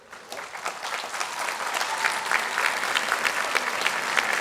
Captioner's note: audience clapping